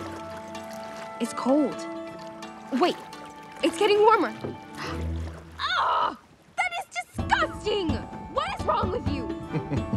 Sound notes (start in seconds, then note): 4.7 Moana gasps; 9.5 Maui chuckles